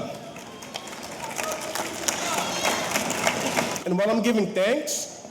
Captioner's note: audience cheering; audience applauding